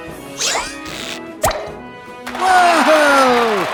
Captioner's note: students applaud